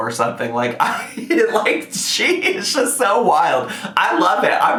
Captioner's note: laughs